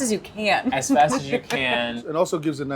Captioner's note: laughing